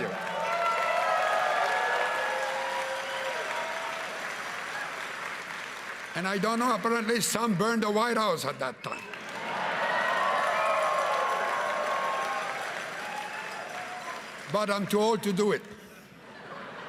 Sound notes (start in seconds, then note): 3.7 cheering and Applause